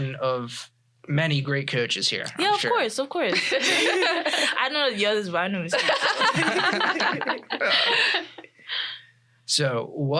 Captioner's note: unintelligible laughter